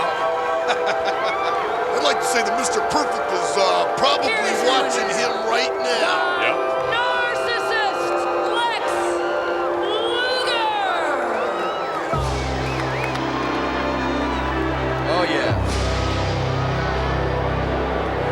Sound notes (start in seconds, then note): 0.4 chuckles; 10.1 audience member screams; 12.5 majestic music